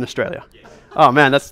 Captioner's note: voiceover